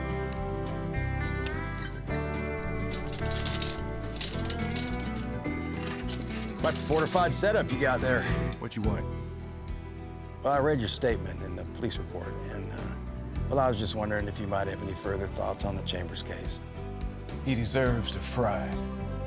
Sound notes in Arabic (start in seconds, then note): 4.4 رنقات سلسلة